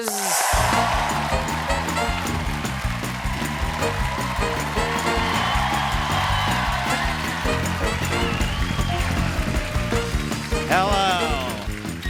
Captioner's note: cheers and applause; band playing